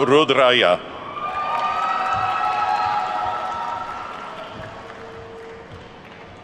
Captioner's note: attendees whooping and clapping